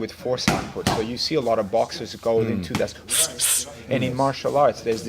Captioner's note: fast exhales